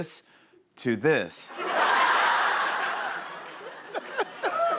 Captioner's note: laughter